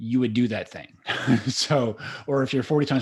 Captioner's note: laughing